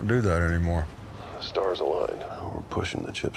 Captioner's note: on phone